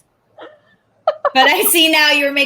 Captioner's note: laughs